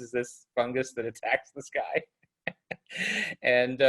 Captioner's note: laughs